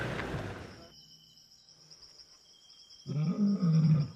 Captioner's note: car engine humming; crickets chirping; animal grunting